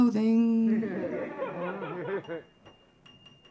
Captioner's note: audience laughing; piano playing